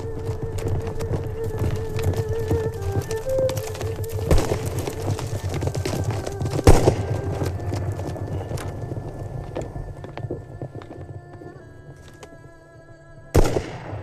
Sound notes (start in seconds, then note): 0.6 gunshots; 9.1 gunshot In Distance